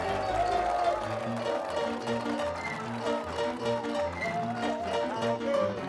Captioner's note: crowd cheering; piano music; piano music continues